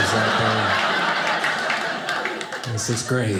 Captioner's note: audience laughing